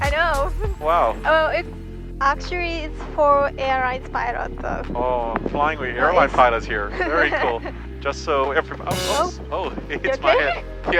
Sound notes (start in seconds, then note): 8.9 horn honks